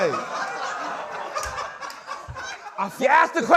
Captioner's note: laughter